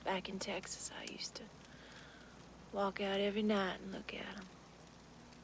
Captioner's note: none